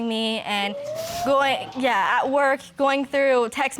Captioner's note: audience exclaiming